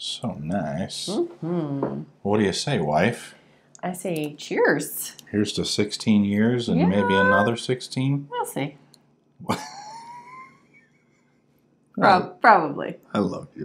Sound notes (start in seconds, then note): 9.4 laughing